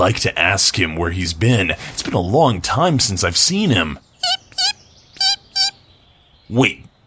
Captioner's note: chirping noise